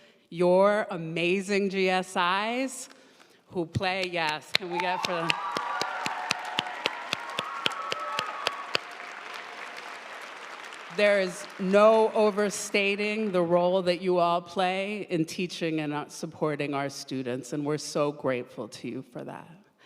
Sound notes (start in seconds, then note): 4.5 audience cheering and applauding